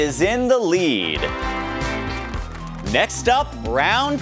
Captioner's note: crowd cheering; trumpets blare